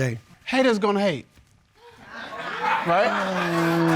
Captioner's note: audience laughs